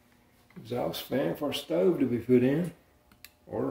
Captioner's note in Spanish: clic